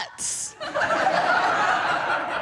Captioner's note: audience laughing